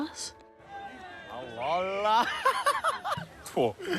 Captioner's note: laughs